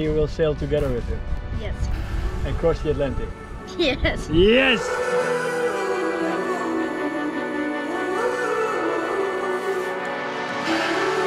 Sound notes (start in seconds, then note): 4.3 laughs; 5.8 happy music